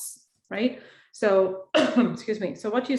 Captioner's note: woman coughs